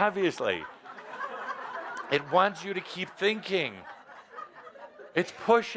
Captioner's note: laughter